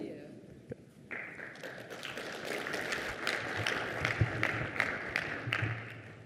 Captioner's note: applause